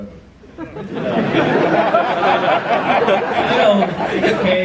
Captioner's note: audience laughs